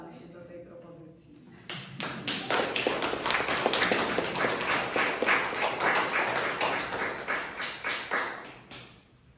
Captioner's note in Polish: oklaski